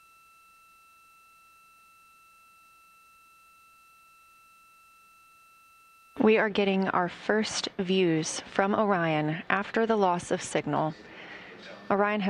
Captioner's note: silence